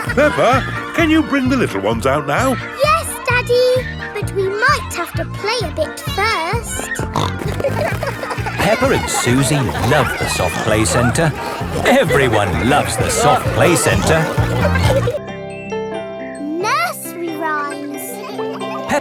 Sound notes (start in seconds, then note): 7.1 snorting